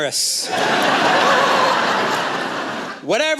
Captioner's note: laughter